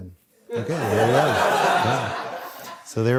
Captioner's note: audience laughs